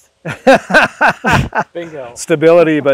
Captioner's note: laughing